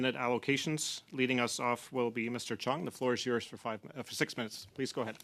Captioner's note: speaking French